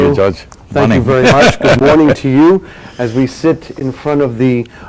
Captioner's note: laughs